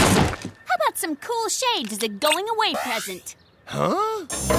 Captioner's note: yelling